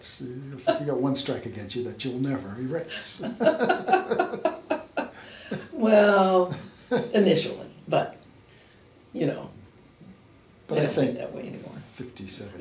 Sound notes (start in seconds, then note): 3.1 laughs